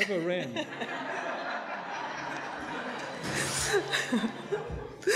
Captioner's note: audience laughing